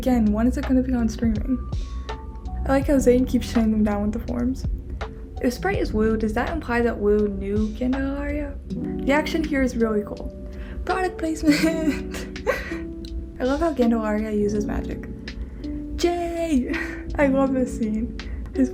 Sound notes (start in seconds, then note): 11.4 laughs